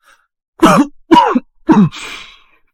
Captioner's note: cough cough